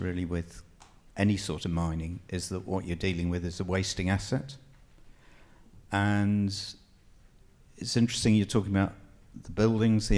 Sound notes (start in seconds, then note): none